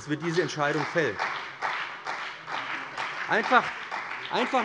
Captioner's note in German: Beifall bei dem BÜNDNIS 90/DIE GRÜNEN und der CDU